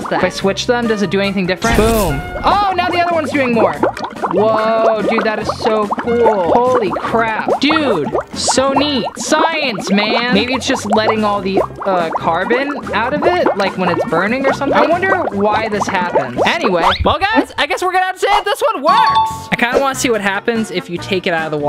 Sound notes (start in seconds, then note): 1.6 electrocuting